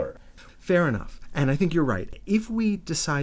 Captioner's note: voiceover